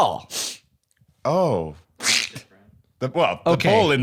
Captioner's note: laughs